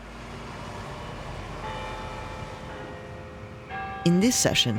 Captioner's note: bell chiming hour